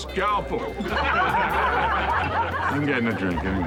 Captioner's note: all laugh